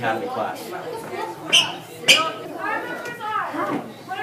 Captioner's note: sneakers squeaking